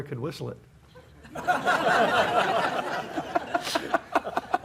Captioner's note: audience laughs; chuckles